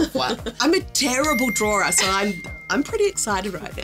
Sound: bell dinging

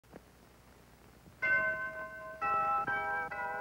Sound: bell ringing

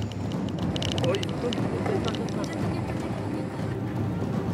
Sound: excited chatter

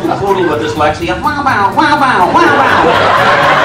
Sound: backwards barking; audience laughs

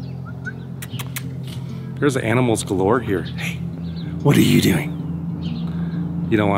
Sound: whistles

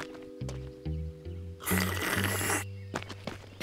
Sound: slurps

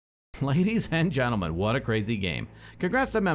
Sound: voiceover

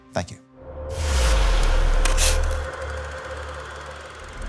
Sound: film rolling

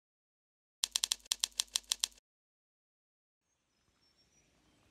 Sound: typewriter striking

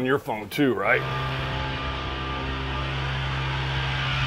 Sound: engine revs

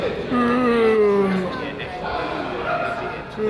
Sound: man yawns

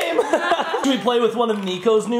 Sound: laughing

